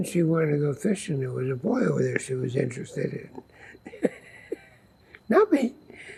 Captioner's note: laughing